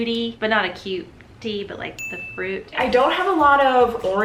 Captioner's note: ding